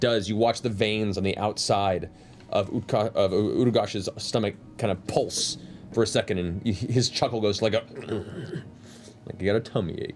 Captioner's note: groans